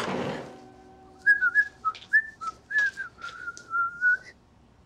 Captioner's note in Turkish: Islık çalıyor